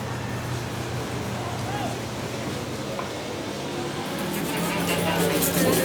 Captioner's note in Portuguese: som de carros